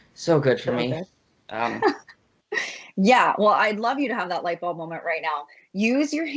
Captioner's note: laughs